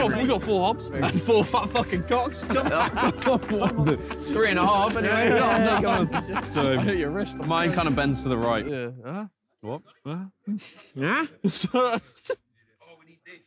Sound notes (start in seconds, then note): 2.4 all laughing; 9.2 music stops